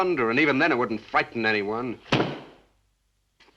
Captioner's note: book slams shut